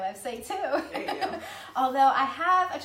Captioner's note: laughing